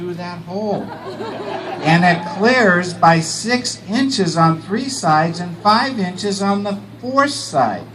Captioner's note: laughter